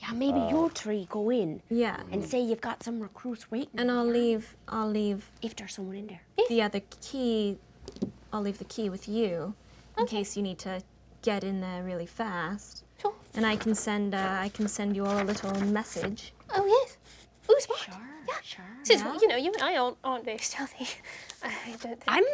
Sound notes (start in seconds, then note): 15.9 paper rustles